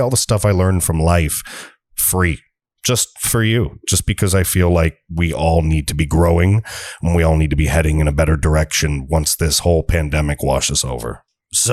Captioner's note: evil voice